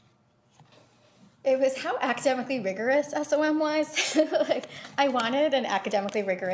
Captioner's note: laughs